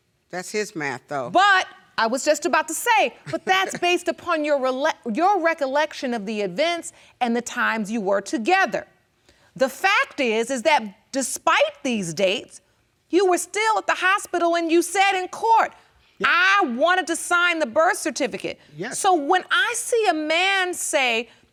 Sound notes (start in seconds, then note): 3.2 chuckles